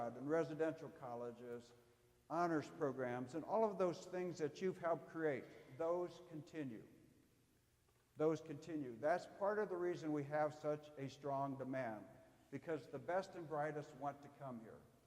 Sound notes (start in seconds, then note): none